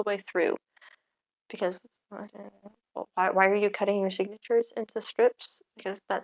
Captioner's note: confused mutter